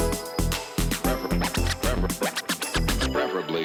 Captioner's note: tape screeching